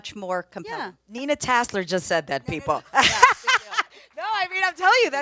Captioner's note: laughs